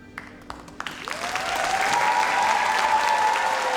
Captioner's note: audience cheers